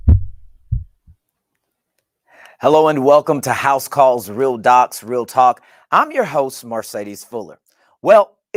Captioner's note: heartbeat